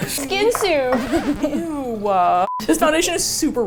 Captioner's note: laughs